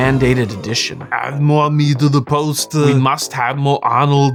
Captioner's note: Schwarzenegger impression